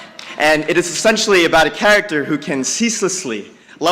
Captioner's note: none